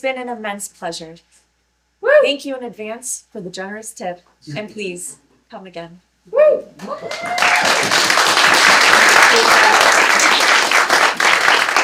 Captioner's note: woo, applause